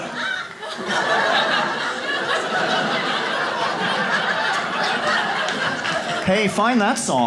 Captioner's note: audience laughs